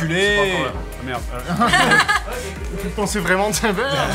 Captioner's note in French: rires